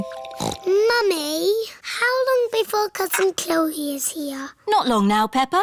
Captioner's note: snorts